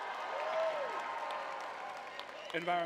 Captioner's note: cheering